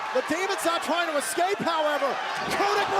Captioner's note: crowd cheering